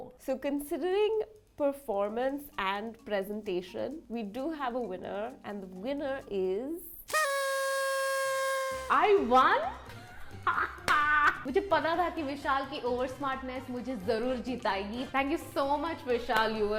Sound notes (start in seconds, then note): 7.0 party horn; 10.0 laughs